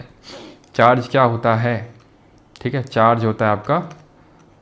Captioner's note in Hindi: नाक से की जाने वाली आवाज़